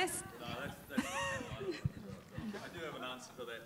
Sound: speaking faintly

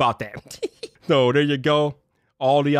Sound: chuckles

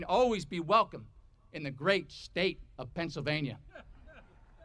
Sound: audience laughing

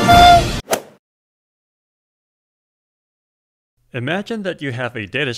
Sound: golf swing sound effect

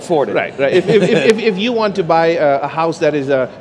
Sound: laughs

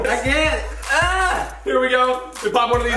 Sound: inarticulate cry

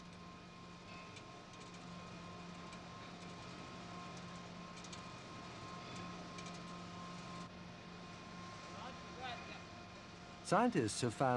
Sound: machinery hums

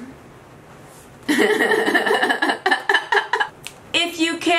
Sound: laughs

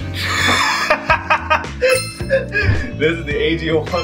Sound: laughing

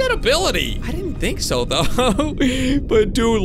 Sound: laughs

